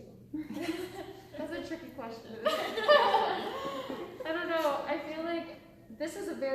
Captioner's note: laughter